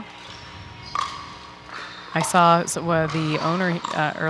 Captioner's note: ball bouncing